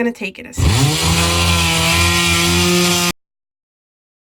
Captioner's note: tool running